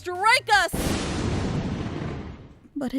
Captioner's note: lightning Crash, Thunder